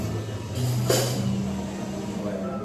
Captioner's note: barista clanks machine